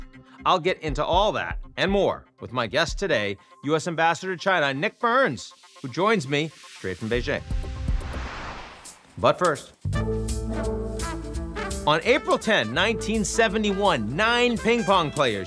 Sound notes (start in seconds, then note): 7.6 screen whooshes; 9.8 upbeat music